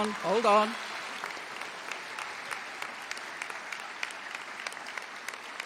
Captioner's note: audience applauding